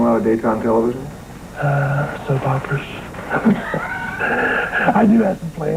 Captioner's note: chuckles